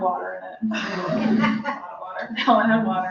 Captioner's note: laughter